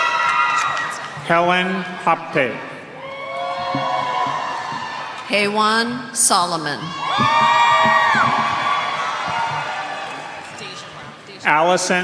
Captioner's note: cheers and applause